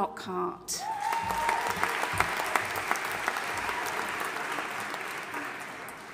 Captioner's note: audience applauding and cheering